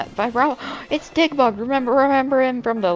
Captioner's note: gasp